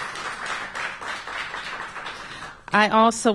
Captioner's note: applause